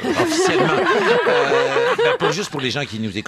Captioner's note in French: rires